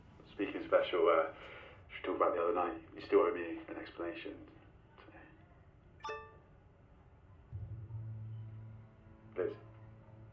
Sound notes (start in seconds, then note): 6.0 laptop chimes; 7.6 tense brooding music